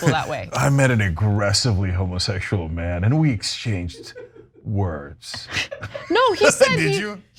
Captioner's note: laugh